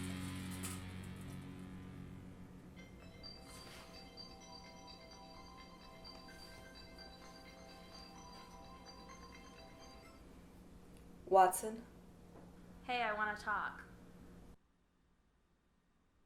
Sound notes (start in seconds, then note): 2.7 phone ringing